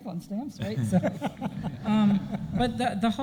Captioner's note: audience laughing; panel laughing